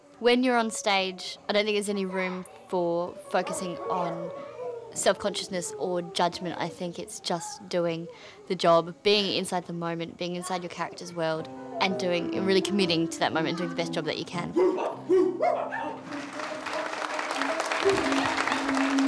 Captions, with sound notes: When you're on stage, I don't think there's any room for focusing on self-consciousness or judgement. I think it's just doing the job of being inside the moment, being inside your character's world and really committing to that moment, doing the best job that you can. (barking and yipping) (audience clapping)